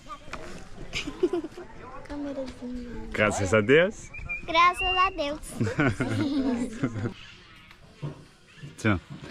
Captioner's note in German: gelächter